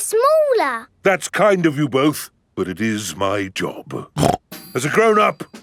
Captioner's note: snorts